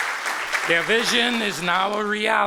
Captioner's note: applause